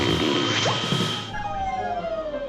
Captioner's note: pop; whistling